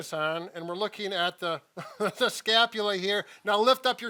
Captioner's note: chuckles